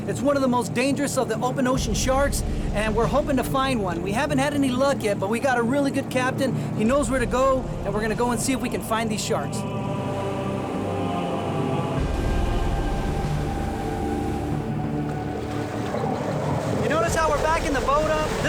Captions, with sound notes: It's one of the most dangerous of the open ocean sharks. And we're hoping to find one. We haven't had any luck yet, but we got a really good captain. He knows where to go and we're gonna go and see if we can find these sharks. (slow music continues) (ocean roaring) (boat engine roaring) You notice how we're back in the boat up,